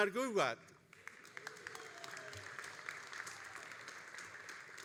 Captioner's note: all applauding